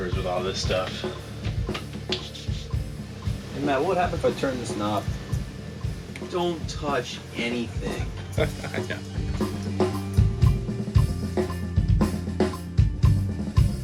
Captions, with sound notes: with all this stuff. Matt, what would happen if I turn this knob? - Don't touch anything. (laughs) (mellow music)